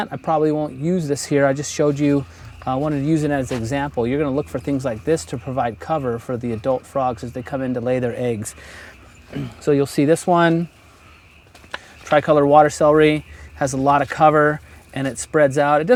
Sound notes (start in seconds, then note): 9.3 cough